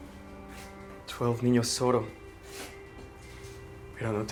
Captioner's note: spanish